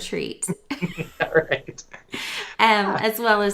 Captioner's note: laughter